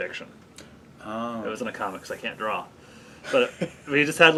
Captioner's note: laughs